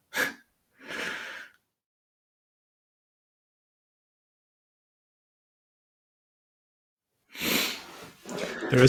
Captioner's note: laughter